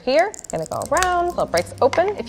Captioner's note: nut cracks